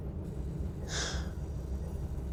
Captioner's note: sigh